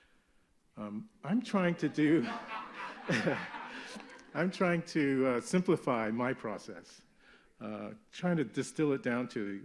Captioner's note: laughter